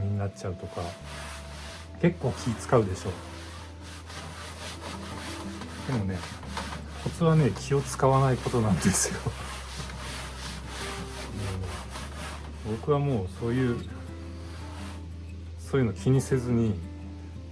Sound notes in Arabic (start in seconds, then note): 8.7 تضحك